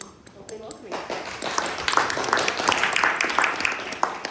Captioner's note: applause